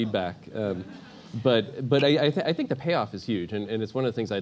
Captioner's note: laugh